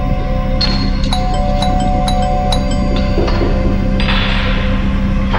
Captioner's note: scary music, crickets; doorbell repeats, knocking on window, scary music, crickets; scary music, crickets